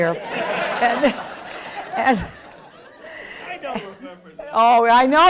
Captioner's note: attendees laughing